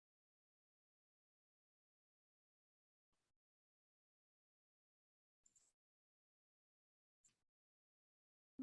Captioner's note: silence